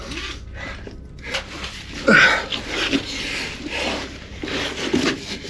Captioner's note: heavy breathing